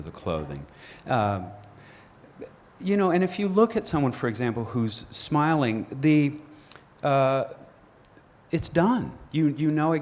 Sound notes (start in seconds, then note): none